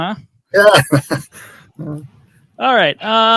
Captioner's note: laughs